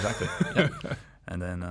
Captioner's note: laughs